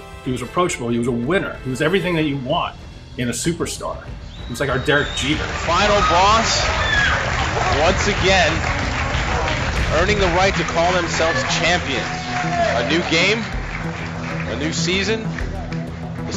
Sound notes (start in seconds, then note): 6.7 crowd cheering